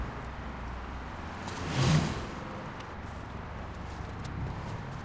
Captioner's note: car passing